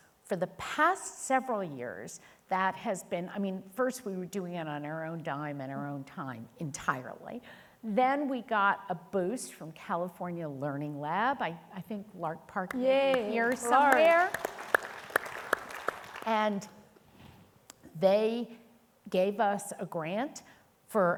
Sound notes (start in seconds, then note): 12.8 audience applauding